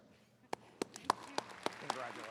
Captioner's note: attendees clapping